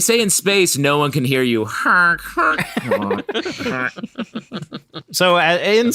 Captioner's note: makes saxophone noises